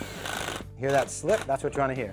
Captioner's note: drill slipping